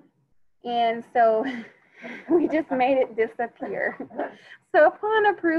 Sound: laughs

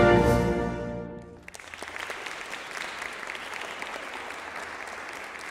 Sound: crowd applause

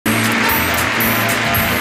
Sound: upbeat music; audience applauds

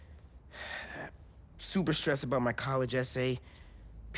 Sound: sigh

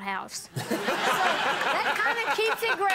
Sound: audience laughing

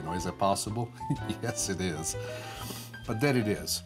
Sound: laughs

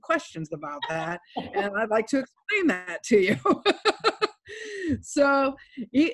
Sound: laughs

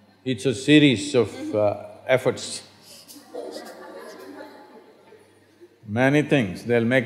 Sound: laughter

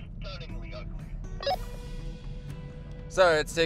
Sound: beep

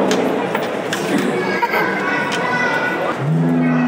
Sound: coin clatters, baby giggles; saber-tooth tiger roars a second time

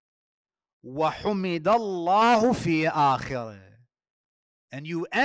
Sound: Arabic

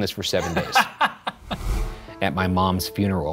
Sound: laughs

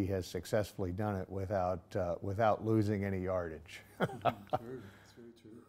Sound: laughing

